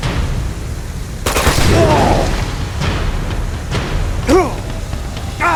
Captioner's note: gun blasting; Lazarevic groaning; Nate and Lazarevic grunting